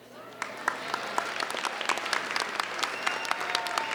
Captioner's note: applauding